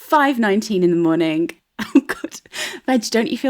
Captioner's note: laughing